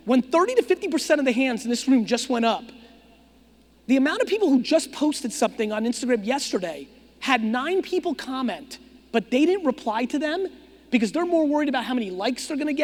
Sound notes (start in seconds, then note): none